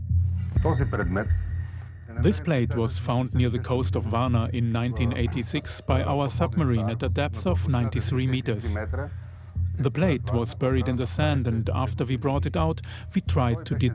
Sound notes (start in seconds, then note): 0.5 in Bulgarian; 2.1 dubbed in English